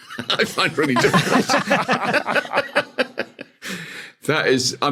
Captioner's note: group laughing